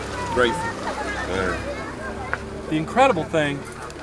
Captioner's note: voiceover